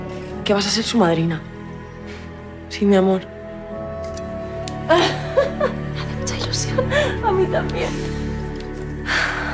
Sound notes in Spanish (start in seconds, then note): 4.9 risas